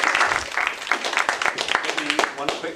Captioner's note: applause